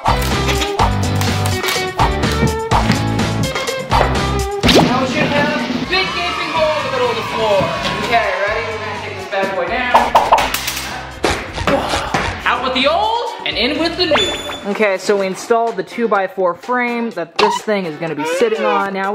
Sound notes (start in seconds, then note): 0.2 upbeat music continues; 7.8 fake Crowd; 10.2 cartoonish popping